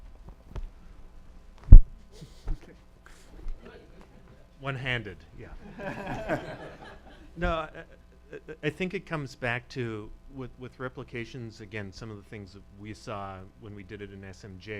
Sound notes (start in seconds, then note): 3.4 chuckles; 5.6 laughter